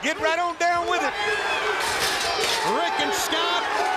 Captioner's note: crowd cheering